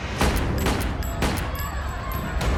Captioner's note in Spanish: Disparos